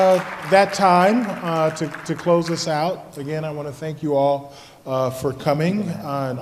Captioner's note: applause